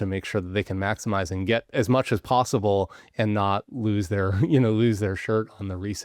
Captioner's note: chuckles